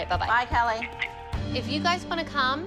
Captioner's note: on phone